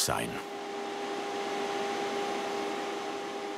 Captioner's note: whirring